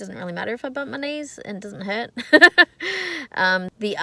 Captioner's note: chuckles